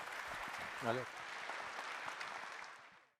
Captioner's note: applause